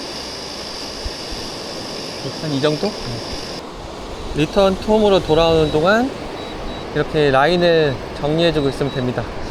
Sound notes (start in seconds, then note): 4.3 drone